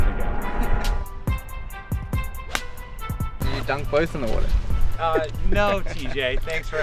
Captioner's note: laughs